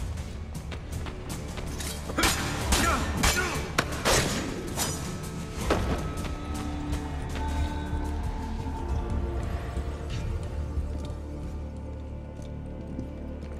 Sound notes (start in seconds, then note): 1.4 fighting sounds